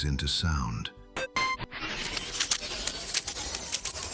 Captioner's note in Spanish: Dispositivo encendiéndose